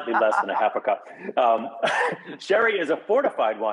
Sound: both chuckle

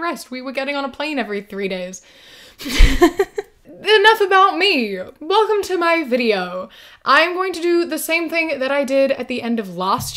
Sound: laughs

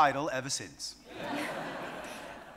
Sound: audience laughing

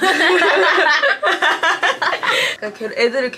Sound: laughing

